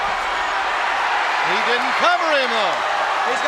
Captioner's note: crowd cheers